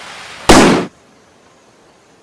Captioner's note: gunshot